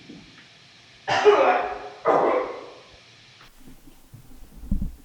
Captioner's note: Jacob coughing